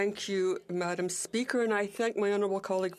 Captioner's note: speaking French